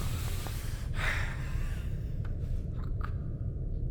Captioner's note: Keith gasping